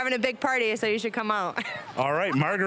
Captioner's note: laughing